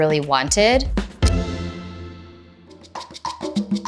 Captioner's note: clock ticking; drum music